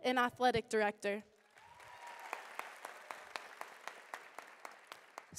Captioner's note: applause